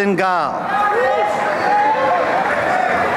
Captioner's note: cheering